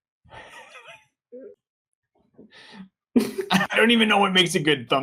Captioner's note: laughter